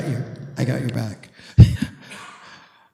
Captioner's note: chuckles